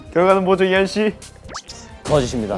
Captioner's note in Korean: 꼴깍